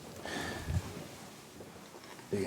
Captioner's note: man sighs